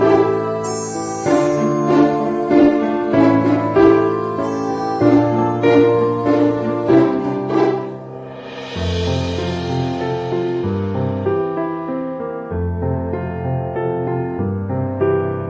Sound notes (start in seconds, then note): none